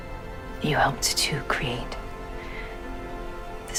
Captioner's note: voiceover; voiceover